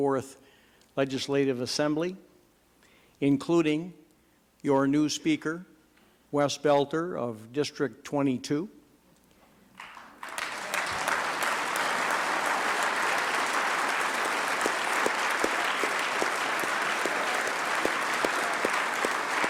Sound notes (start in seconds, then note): 7.0 applause